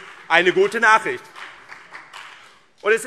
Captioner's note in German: Vereinzelter Beifall BÜNDNIS 90/DIE GRÜNEN und CDU